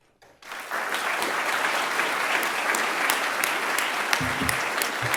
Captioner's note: audience clapping